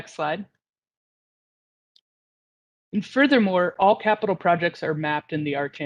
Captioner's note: A pause